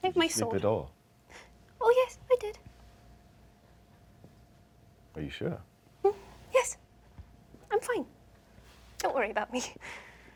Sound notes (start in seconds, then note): none